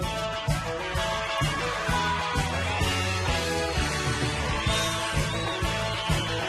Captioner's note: audience cheering and applauding